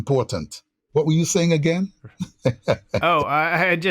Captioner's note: laughter